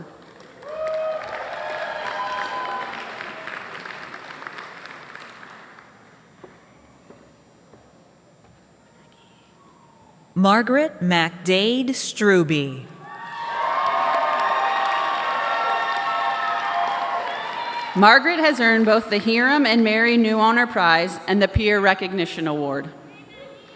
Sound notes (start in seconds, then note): 5.8 applause